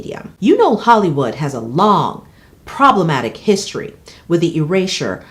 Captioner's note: none